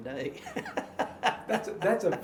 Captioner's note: laughing